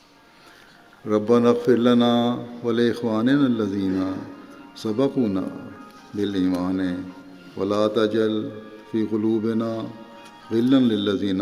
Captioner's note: Arabic